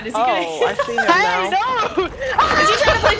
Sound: laugh

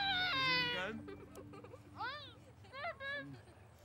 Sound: children laughing

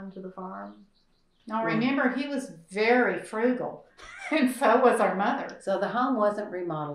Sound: laughs

